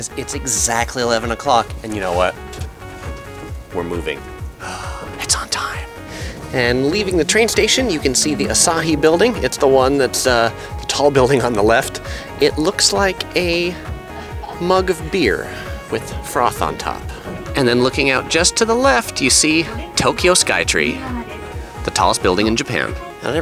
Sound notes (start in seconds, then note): 4.4 gasping